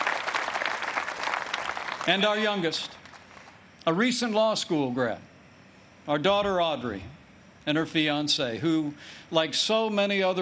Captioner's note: applause